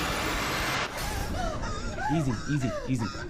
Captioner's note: Maria gasping